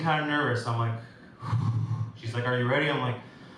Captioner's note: breathes out